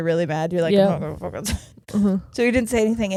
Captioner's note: grumbling